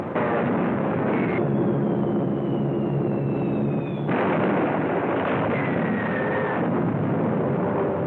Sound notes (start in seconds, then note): 3.7 explosions